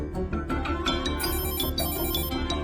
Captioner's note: phone rings intermittently